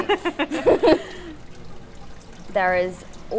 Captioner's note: laughter